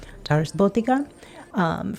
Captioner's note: speaking in foreign language